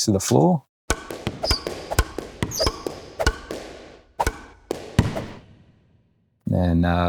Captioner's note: racket pounding; shoes squeaking